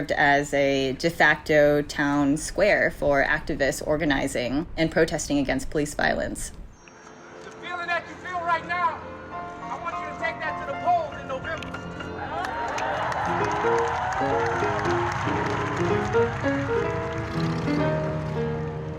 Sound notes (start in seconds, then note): 11.4 crowd cheering; 14.7 piano music